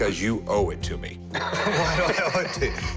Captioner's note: laughs